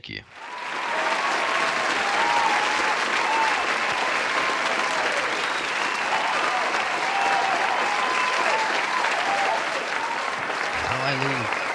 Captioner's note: crowd applause